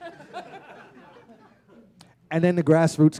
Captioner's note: laughter